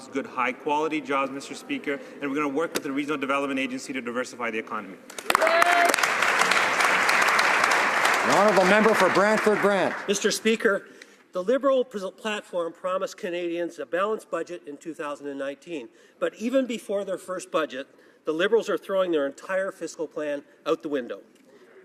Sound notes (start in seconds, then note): 9.2 some Applause